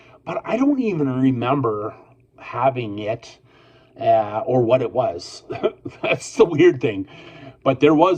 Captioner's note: I laugh